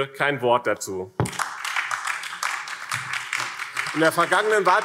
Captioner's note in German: Beifall BÜNDNIS 90/DIE GRÜNEN und vereinzelt Freie Demokraten